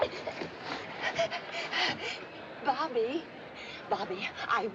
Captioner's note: panting